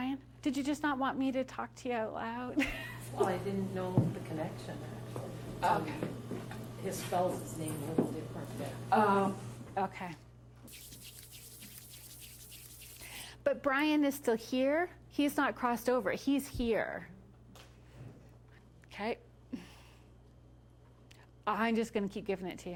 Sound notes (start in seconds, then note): 2.7 laughs